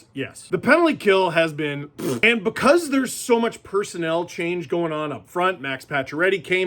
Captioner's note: fart noise